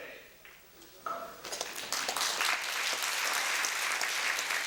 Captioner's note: applause